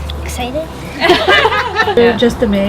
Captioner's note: laughing